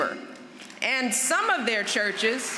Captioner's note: applause